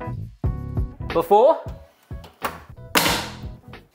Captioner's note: oven door closes